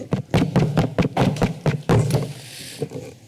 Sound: taps on Microphone

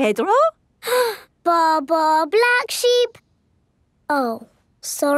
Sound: inhales

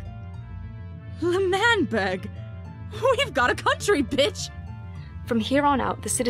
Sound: laughs

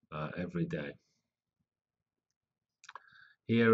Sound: pause

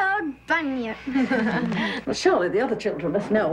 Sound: all laugh

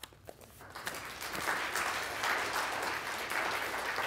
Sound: audience applauding

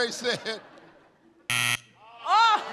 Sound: buzzer

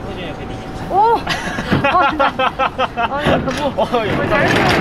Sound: laughing

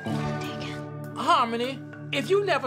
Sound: whispers

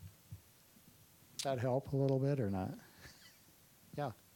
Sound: chuckling

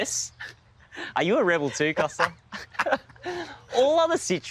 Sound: laughs

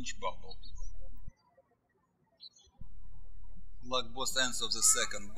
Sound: birds chirping

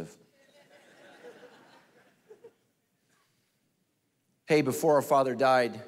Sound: congregation laughing

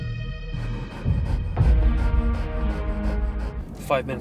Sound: suspenseful music; panting

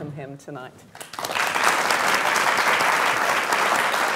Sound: applause

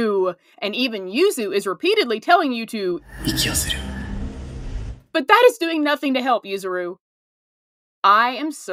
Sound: breathe

